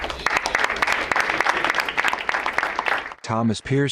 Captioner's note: crowd applauds